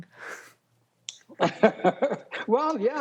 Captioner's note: laughs